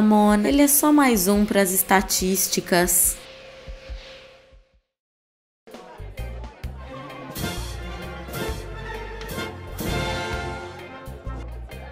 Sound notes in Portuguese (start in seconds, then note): 5.7 som de falaza e leve algazarra